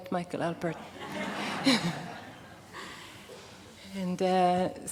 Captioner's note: laughter